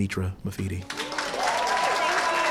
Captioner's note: cheering & applause